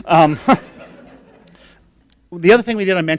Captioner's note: laughing